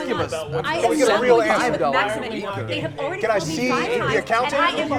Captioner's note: all chattering